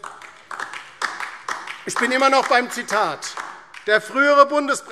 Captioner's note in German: Beifall DIE LINKE